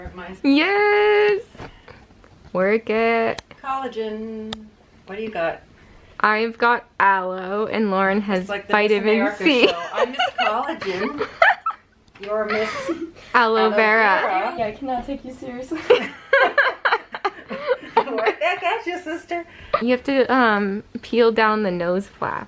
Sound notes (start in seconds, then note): 11.0 gigling; 15.8 laughter